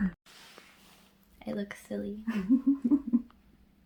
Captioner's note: giggles